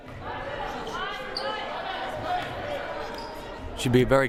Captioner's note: crowd murmuring